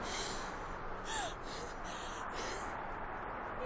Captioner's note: panting